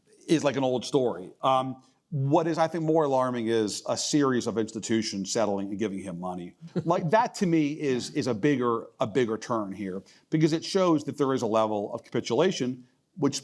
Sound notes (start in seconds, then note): 6.7 laugh